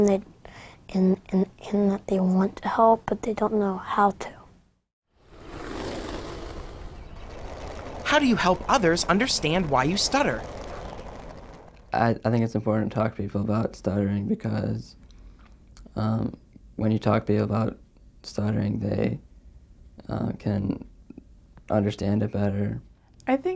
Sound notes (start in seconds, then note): 5.2 skateboard whooshing; 5.2 nature sounds